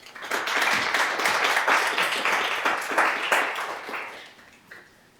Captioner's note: audience applauding